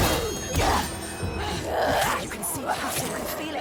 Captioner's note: weapons clack; Senua shouts